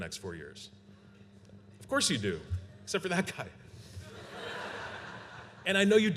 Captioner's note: laughter